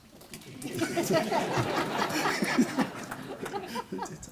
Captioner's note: audience laughter